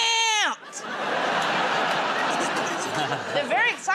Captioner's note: laughter